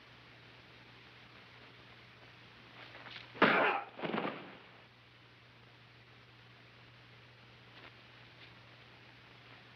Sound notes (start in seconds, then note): 3.5 grunts; 3.9 thuds